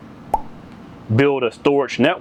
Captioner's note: popping sound